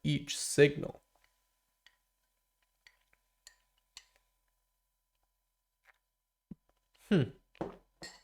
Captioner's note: silence